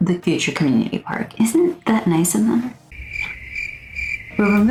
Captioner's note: crickets sfx